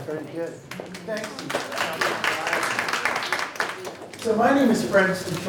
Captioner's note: audience applauds